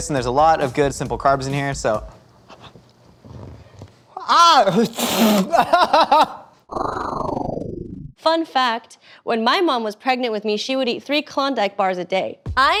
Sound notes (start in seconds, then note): 4.7 spits; 6.0 yells